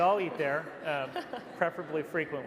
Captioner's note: laughter